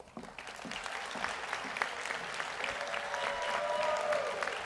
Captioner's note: audience applauds